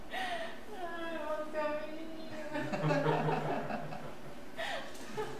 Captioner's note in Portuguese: risos